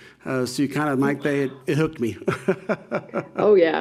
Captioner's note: laughing